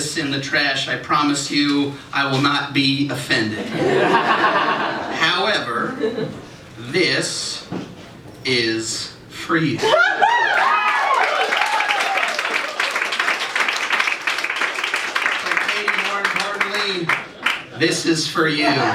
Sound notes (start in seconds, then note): 3.6 laughter; 10.5 applause; 18.6 laughter